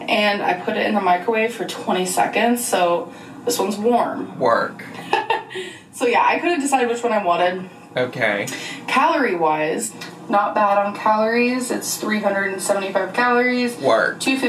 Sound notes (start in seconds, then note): 5.0 laughing